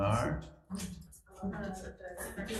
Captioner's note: members conversing faintly